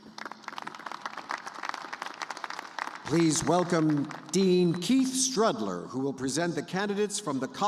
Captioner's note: applause